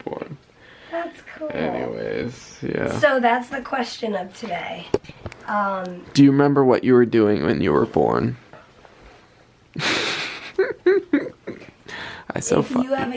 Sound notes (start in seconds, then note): 9.8 laughing